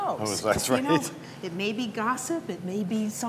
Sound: laughs

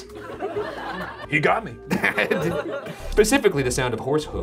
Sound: laughs

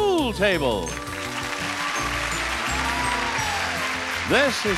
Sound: audience applauding

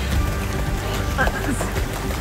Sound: background music; water splashing noise; chuckles; background music; water splashing noise

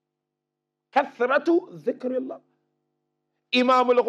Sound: Arabic

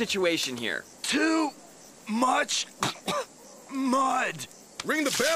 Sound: coughing

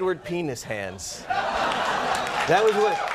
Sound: audience laughing

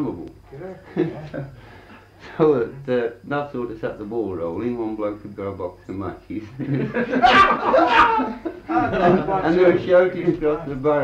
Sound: laughter

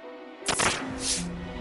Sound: camera snaps

